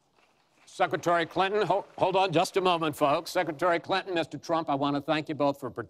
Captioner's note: applause